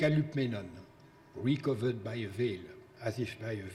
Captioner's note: speaking in foreign language